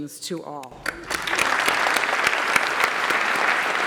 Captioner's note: applause